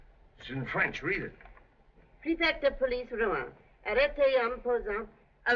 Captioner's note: French